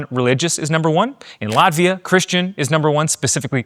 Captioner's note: camera clicking